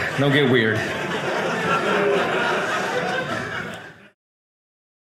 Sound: audience laughing

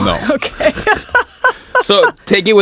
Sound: laughs

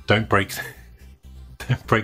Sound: chuckles

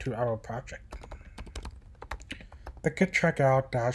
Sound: typing

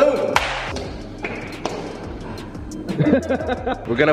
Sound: loud hand dapping; men happy laughing

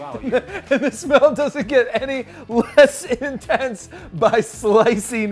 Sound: laughs

